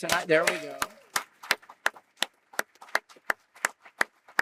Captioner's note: applause